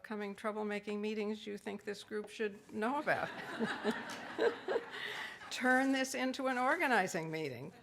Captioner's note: laughs